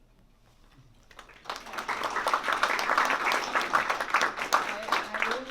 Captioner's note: applause